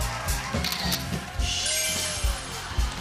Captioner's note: camera shutter clicks